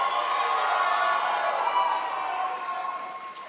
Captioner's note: crowd applauds